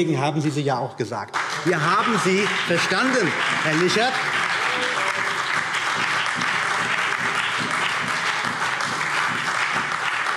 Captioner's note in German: Beifall CDU, BÜNDNIS 90/DIE GRÜNEN, SPD und DIE LINKE